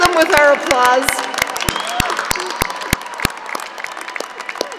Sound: applauding

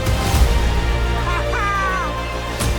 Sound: laughs

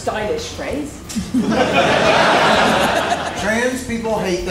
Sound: laughs

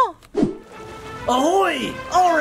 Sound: air whooshing

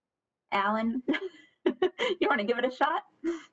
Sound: laughs

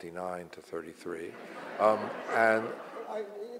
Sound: audience laughs

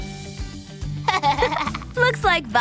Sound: giggling

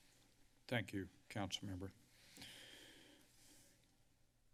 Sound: inhales

